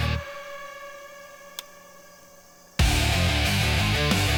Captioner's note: tape Snapping as it Breaks